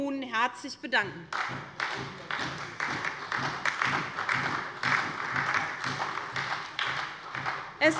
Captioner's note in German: Allgemeiner Beifall